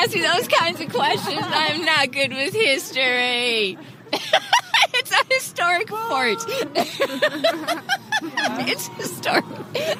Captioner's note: laughs